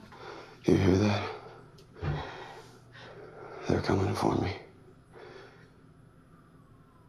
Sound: shaky breathing

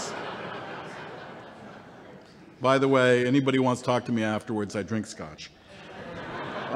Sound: laughter

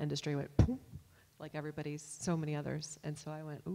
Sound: poofs

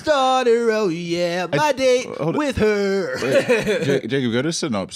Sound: laughs

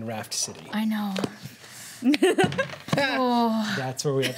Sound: laughter

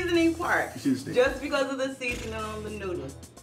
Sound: DJ scoffs

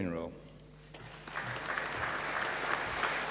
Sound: applause

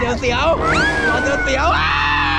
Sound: laughs

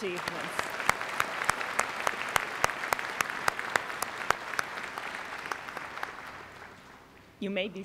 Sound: applause

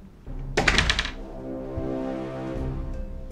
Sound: door closes; tense music

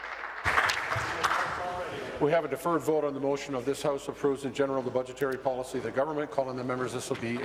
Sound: applause

